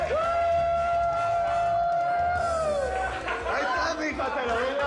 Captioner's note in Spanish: Gritos y exclamaciones